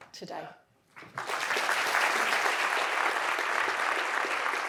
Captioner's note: audience applauding